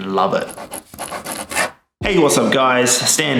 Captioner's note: scribbling sound